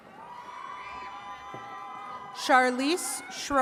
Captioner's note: attendees cheering